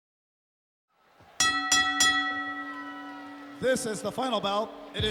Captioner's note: bell rings